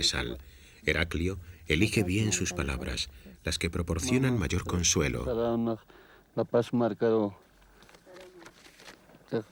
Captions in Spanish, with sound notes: Eraclio elige bien sus palabras, las que traen consuelo. [Audio hablado en quechua]